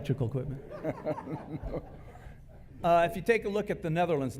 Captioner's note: laughter